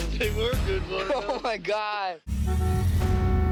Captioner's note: chuckles